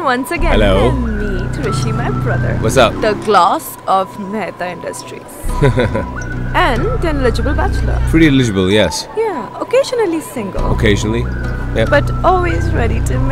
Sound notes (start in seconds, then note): 5.4 Rishi giggling